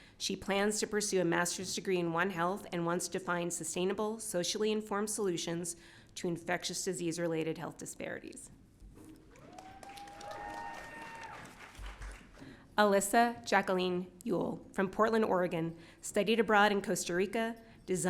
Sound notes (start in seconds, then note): 9.3 audience cheering